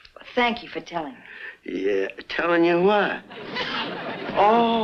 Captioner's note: audience laughs